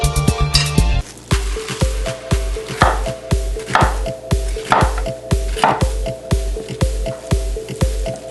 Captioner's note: let's make fried rice, chopping sound in the background